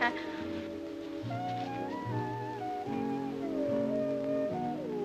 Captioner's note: slurring